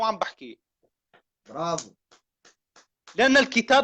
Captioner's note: applauds